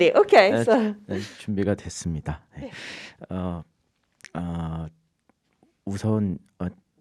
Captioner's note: speaking in Korean